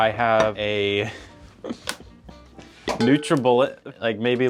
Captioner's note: chuckling